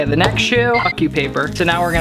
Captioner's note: beep